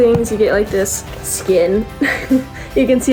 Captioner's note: laughs